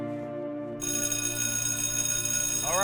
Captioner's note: school bell rings